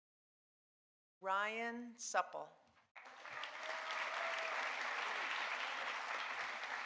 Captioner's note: audience applauding